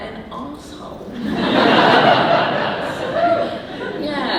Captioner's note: audience laughing